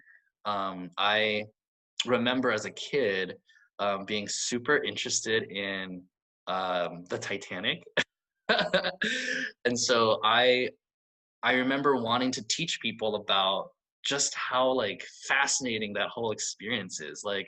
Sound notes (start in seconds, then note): 8.5 laughs